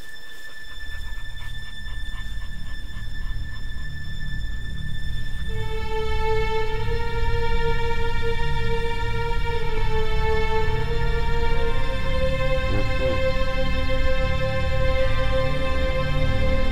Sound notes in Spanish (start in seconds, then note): 1.8 Jadeo